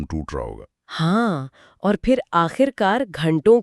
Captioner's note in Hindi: गहरी सांस लेने की आवाज़